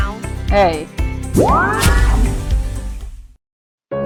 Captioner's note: mystical sound